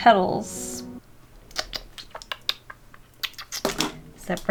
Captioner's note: mouth clicking noises